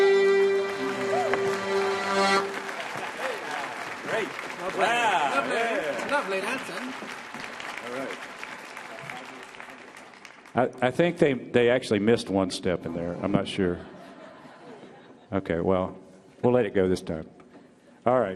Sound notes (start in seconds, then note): 0.0 audience applauding; 0.3 audience cheering